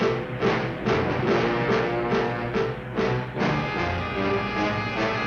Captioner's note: upbeat music; car engine revving